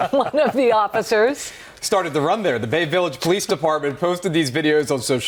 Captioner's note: laughter